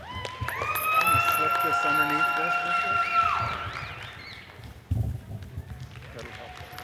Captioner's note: audience cheers and applauds; people chattering